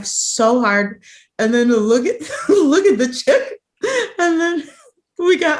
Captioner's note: laughs